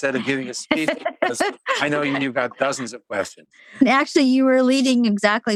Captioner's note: laughs